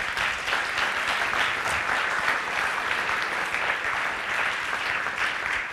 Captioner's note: applause